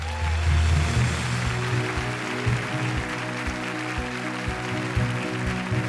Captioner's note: audience applauds